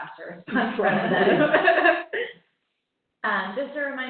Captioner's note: laughter